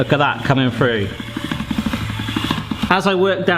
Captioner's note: pasta machine cranking